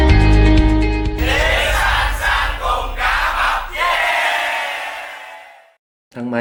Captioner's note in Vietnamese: hò reo